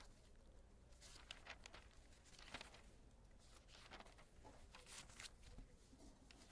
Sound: page turning

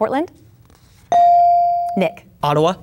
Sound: bell dinging

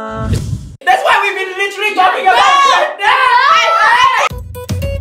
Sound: shouting

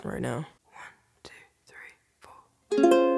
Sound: whispering

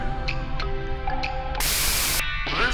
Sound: white noise

